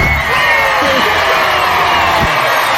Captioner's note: all cheering; as they're cheering